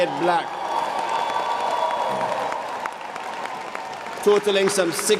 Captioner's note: applause